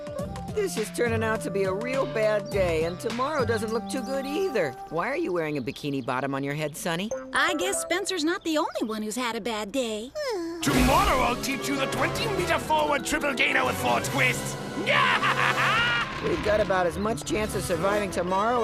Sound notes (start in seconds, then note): 14.8 evil laughter